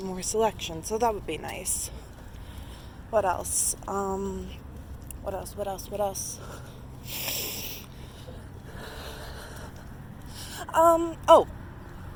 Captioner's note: laughs